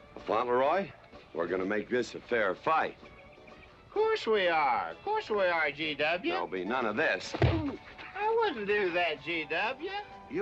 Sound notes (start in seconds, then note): 7.3 thump